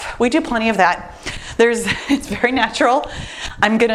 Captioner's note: laughs